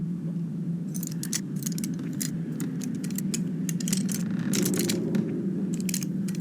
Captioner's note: lock picking fx